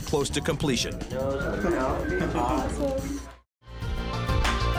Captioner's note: construction team chattering